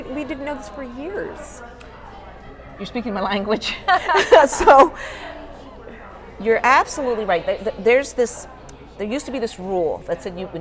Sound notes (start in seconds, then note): 3.9 laughs